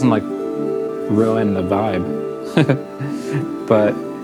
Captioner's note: laughs